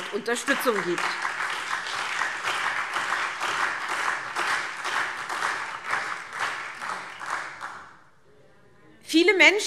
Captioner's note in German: Beifall SPD, AfD und Freie Demokraten